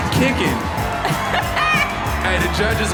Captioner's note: laughs